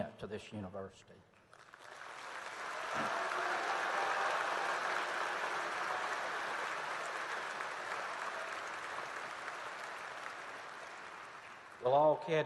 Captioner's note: applause